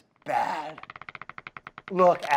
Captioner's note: wood creaks